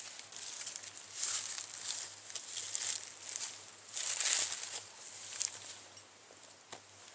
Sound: footsteps

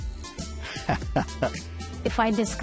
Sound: laughs

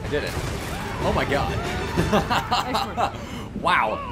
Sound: stylized sword murder sound; lightning strikes; evil victory laugh

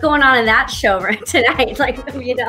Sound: laughs

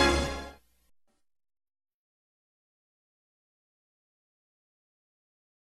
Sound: silence

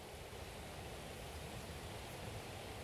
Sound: birds chirping, clatter of river

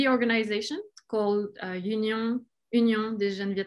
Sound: speaking in foreign language

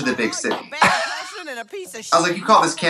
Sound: Katya laughs

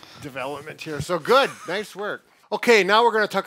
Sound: chuckles

